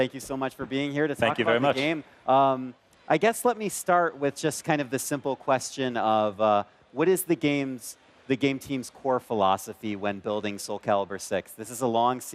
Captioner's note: speaking in foreign lang